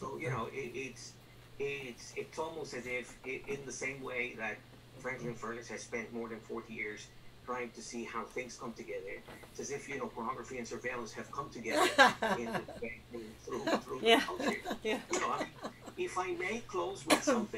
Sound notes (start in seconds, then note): 15.1 laughter